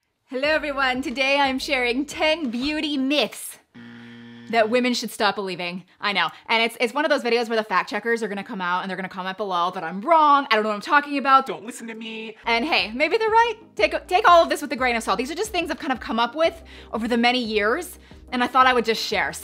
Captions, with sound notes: - Hello everyone, today I am sharing 10 beauty myths (buzzer buzzes) that women should stop believing. I know, and it's one of those videos where the fact-checkers are gonna come out, and they're gonna comment below that I'm wrong, I don't know what I'm talking about, don't listen to me. And hey, maybe they're right. Take all of this with a grain of salt. These are just things I've kind of come up with over the many years, and I thought I would just share.